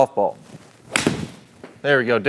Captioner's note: club smacking